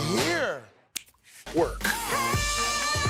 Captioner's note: snapping fingers